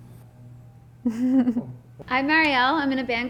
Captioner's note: laughs